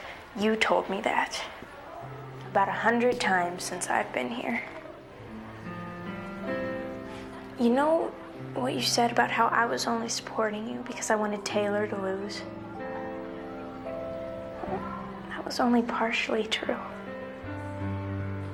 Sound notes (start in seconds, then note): none